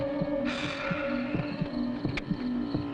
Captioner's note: sighing